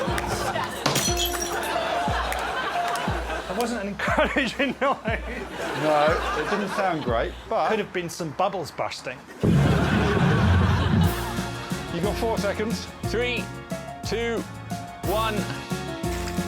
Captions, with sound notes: [glass shatters] That wasn't an encouraging noise. No, it didn't sound great but... Could've been some bubbles bursting. -You've got four seconds. -Three, two, one.